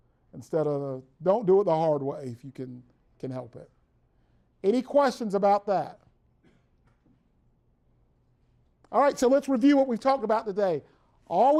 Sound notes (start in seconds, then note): 6.4 brief silence